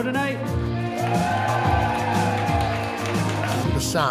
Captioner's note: crowd cheering